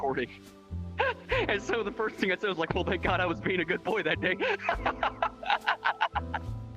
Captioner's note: laughs